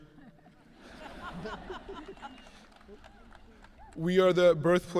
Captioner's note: audience laughing